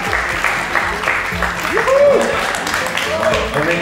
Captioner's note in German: Jubel